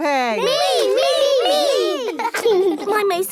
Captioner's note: laughing